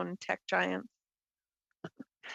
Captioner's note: speaking French